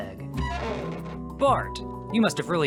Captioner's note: door sounds